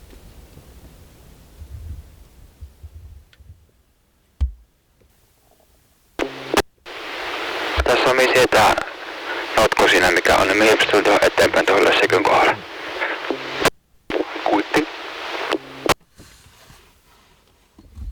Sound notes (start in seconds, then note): 12.2 radio message